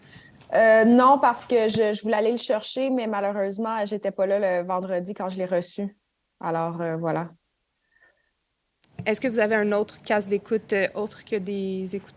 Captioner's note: speaking French